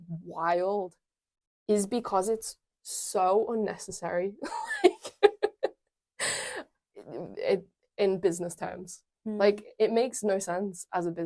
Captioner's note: laughs